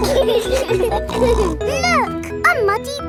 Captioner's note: laughing